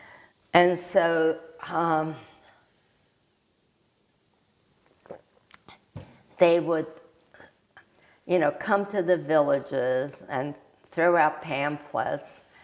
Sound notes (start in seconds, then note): 1.8 drinking